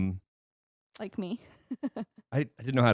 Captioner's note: laughing